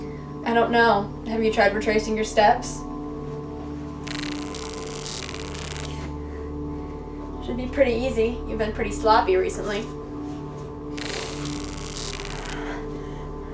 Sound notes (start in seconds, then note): 4.0 taser zapping; 11.0 taser zapping